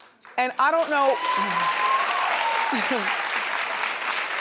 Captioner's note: audience cheers